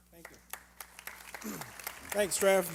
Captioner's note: applause